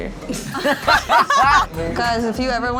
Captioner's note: laughs